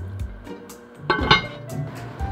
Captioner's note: clank